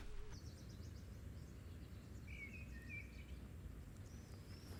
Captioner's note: birds chirping